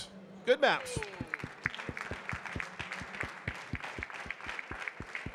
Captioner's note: audience clapping